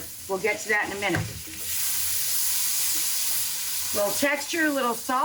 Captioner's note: pan sizzling